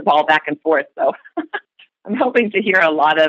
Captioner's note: chuckle